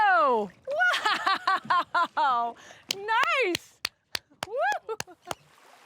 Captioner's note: chuckling